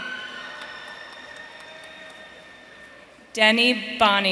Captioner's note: audience cheering